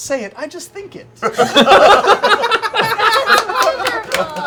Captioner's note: laughter